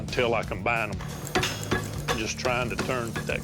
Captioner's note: clanging